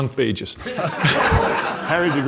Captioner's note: audience laughs